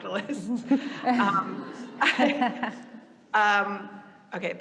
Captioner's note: audience laughing lightly